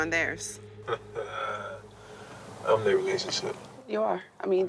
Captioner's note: laughs